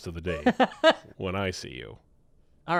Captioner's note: laughing